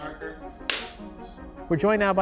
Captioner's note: clap